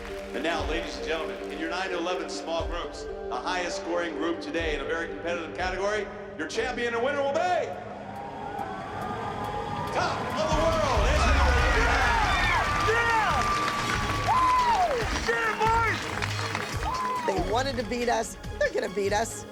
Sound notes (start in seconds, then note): 12.3 cheering